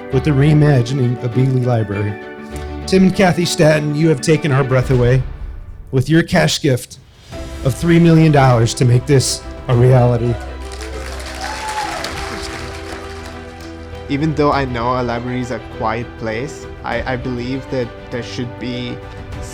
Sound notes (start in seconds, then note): 9.7 audience applauds